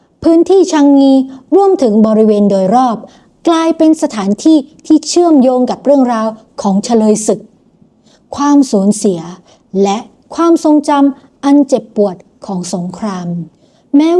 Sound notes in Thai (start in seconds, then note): 8.2 เสียงสูดหายใจ